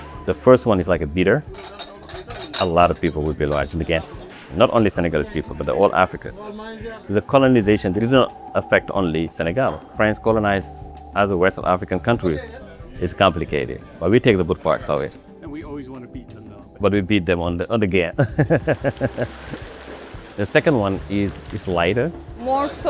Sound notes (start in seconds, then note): 18.2 laughs; 18.2 crackling